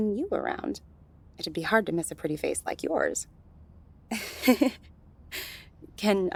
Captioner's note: flirtatious